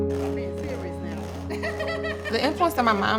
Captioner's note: laughing